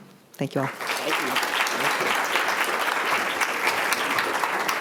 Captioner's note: applause